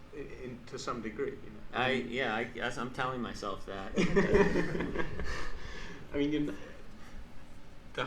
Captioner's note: laughs